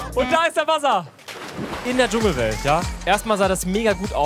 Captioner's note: Plätschern